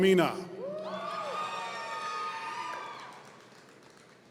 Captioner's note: audience cheering